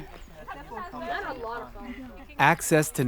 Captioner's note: group chattering